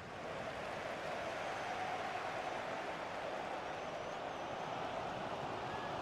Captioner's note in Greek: χειροκρότημα